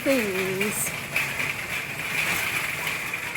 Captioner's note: trolly clattering